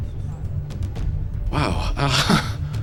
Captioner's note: sighs